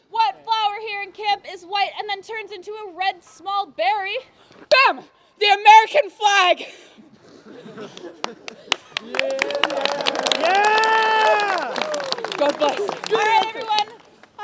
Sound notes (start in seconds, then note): 7.9 applause